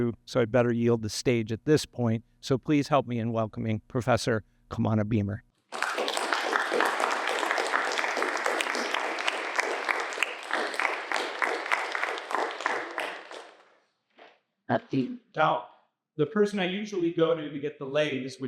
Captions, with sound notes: so I'd better yield the stage at this point. Please help me in welcoming Professor Kamana Beamer. [APPLAUSE] The person I usually go to get the leis,